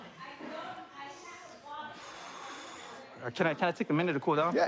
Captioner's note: exhales